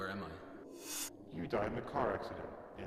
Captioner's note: whooshing